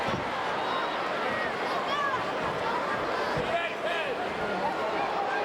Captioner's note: crowd chattering